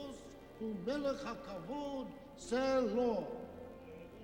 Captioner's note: rabbi speaking in hebrew; cantor singing in hebrew